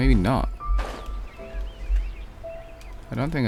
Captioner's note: door slamming